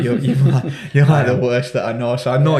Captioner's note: host chuckling; chuckling